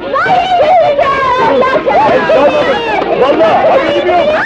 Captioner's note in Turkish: Kadınların çığlıkları